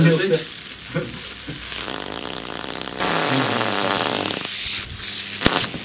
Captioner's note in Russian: треск тока